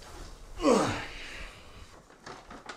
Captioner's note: groans